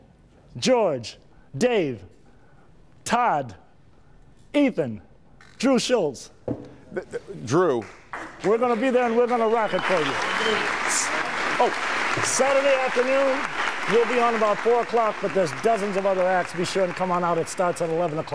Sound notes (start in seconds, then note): 13.1 applause